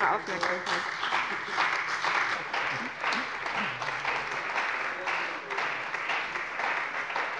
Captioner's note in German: Beifall bei der CDU und dem BÜNDNIS 90/DIE GRÜNEN